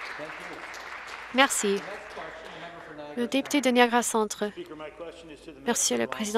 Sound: some Applause

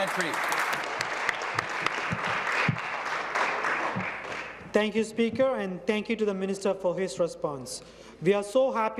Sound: applause

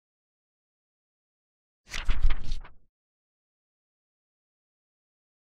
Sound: fluttering Pages

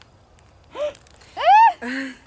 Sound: gasp

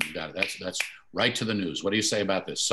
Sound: fingers slapping

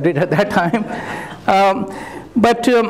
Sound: laughter

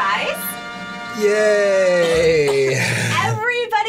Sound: coughs

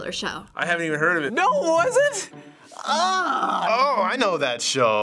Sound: groans deeply

